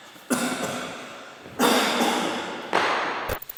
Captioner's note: coughs